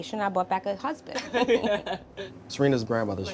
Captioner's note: laughing